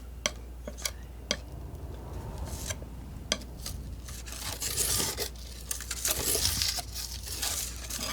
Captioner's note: scratching